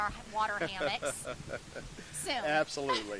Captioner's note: laughs